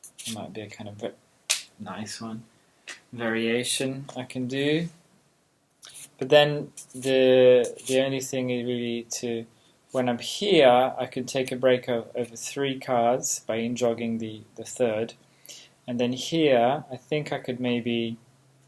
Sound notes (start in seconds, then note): 1.3 card hitting floor